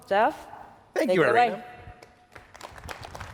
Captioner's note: applause